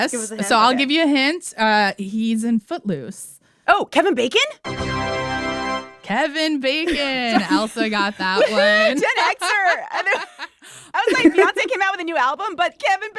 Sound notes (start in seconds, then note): 4.6 soundbite of victory tune; 10.9 laughter